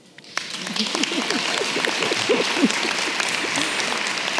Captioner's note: audience clapping